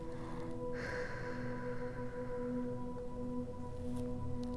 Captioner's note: exhales deeply; tranquil music